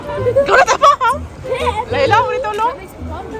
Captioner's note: speaking German